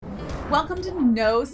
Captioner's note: air whooshes